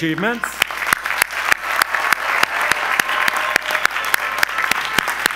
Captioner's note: audience applause